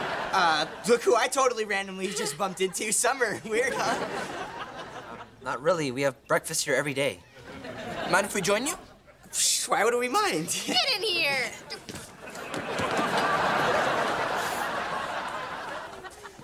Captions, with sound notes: Uh, look who I totally randomly just bumped into. Summer. Weird, huh? Not really. We have breakfast here every day. Mind if we join you? - Psh, why would we mind? - Get in here! [laughing]